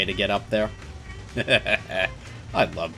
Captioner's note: smug chuckle